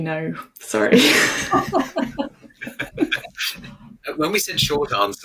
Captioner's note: all laughing